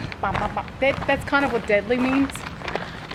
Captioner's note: australian accent